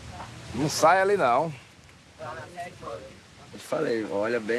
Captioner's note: Portuguese spoken audio